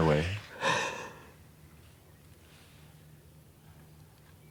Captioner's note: Dayne crying